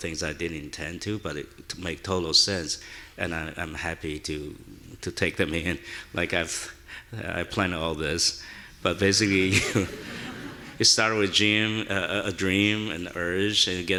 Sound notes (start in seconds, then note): 9.4 audience laughing; 9.4 chuckles